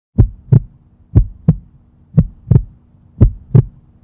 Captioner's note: heart beating